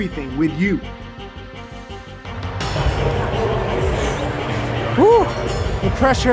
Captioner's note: intense music; announcements overhead